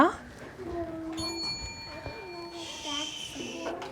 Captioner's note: bell rings